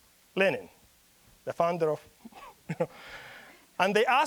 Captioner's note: chuckling